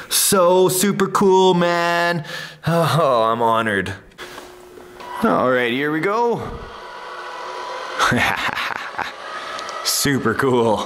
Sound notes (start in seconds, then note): 7.8 laughs